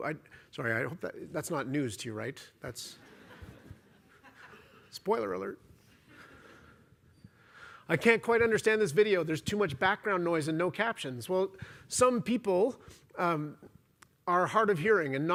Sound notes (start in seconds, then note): 2.9 laughter